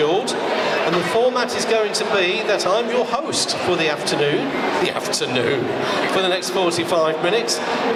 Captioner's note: laughs